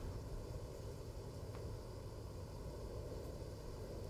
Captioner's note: insects chirping